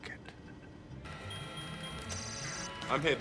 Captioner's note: beeping